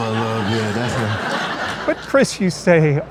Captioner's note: crowd laughing